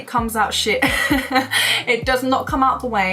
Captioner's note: laughs